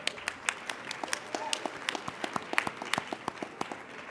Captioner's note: applauding